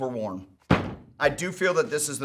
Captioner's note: shoes hit table